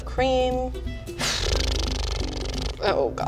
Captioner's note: blows raspberry